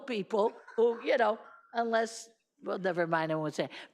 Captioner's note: laughing